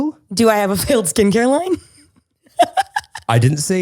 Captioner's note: laughs